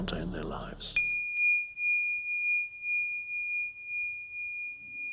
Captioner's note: loud chiming